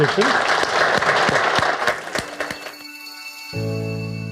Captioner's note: audience applauds